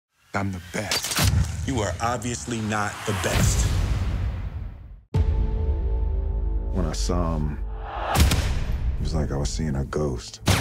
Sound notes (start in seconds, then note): 0.9 gun clicks; 10.4 gunfire